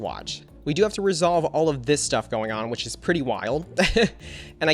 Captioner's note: laughs